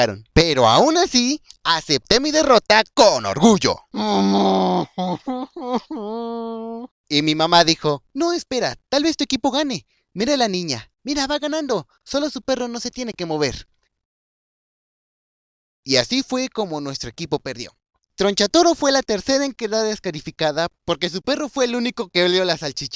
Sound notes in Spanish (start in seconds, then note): 3.9 Llora